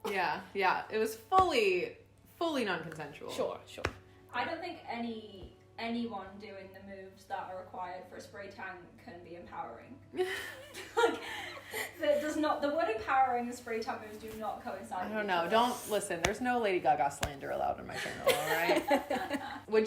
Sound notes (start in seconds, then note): 10.2 chuckling; 18.0 all laughing